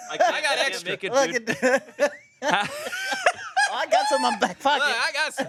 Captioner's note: everyone laughs